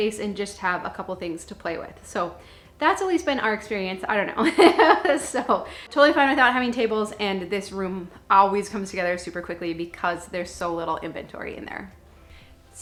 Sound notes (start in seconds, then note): 4.9 laughs